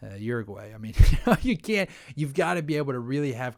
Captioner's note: laughs